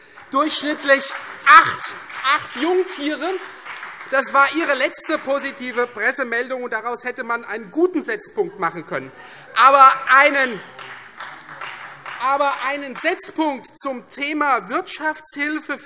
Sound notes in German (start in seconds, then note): 2.9 Demonstrativer Beifall BÜNDNIS 90/DIE GRÜNEN; 9.6 Beifall Freie Demokraten - Zurufe